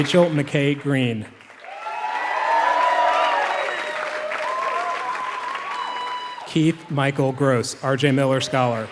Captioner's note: applause